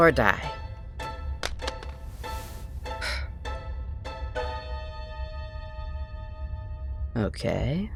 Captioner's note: headphones clatter. Comedic music ends